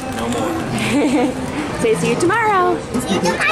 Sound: laughs

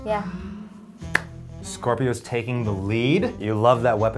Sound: claps

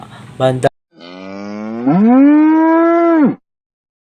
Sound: sound of a Cow

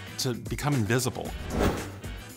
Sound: swoosh

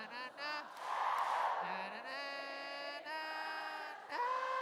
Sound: claps

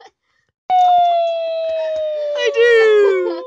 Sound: laughing; squealing

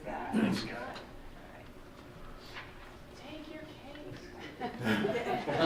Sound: laughing

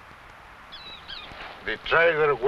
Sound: bird chirping

